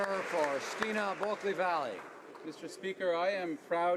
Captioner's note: speaking alternate language